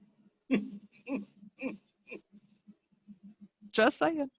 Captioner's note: chuckling